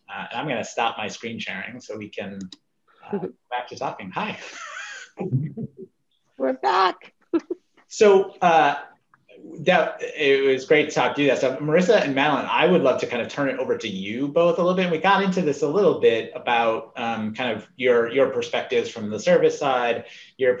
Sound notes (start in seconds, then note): 4.3 panelists laughing; 7.3 laughs